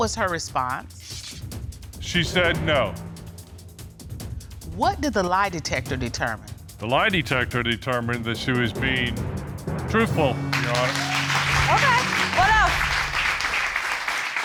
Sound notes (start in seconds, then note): 10.5 audience cheering